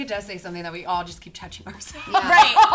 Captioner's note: laughs